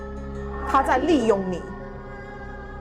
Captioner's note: Mandarin language